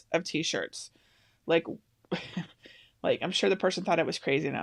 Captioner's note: laughs